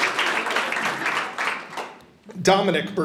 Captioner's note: audience applauding